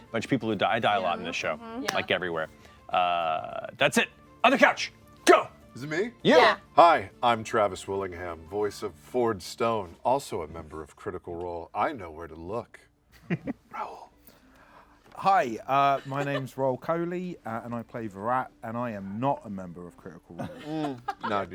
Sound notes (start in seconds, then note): 13.2 chuckles